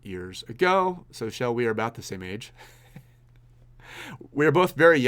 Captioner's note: laughs